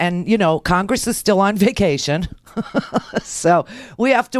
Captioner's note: laughs